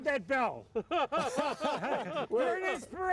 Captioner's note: all laughing